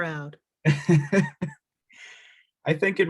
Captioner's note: laughing